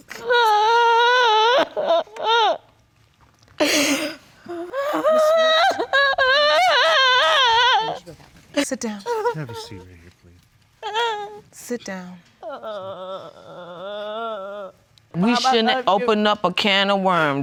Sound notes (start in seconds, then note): 0.1 wails; 6.1 continues wailing loudly